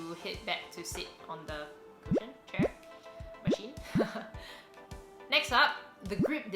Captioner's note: laughs